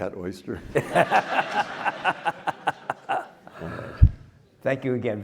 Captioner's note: everyone laughing